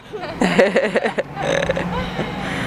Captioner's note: laughter